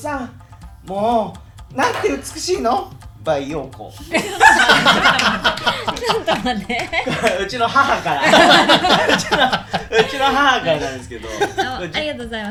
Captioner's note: laughing